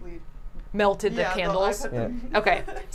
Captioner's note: laughs